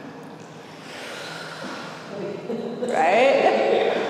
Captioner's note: breath whooshing